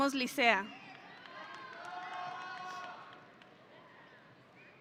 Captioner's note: audience cheering